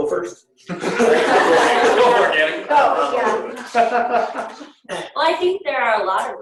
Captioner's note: laughter